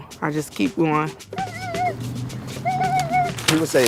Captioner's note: upbeat music; baby babbling